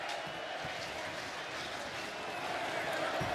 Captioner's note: crowd cheering